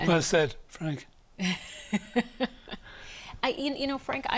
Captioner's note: laughs